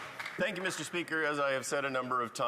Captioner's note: some Applause